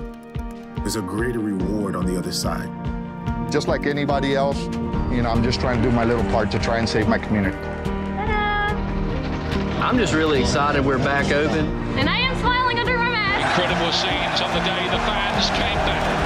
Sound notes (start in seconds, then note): 8.8 voice of an American male; 13.2 voice of sports announcer